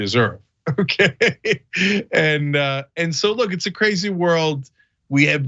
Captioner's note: laugh